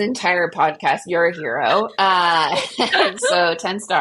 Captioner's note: laughs